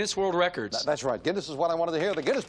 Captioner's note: beep